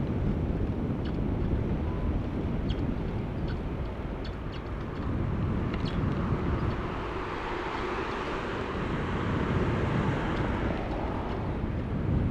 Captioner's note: wind Blowing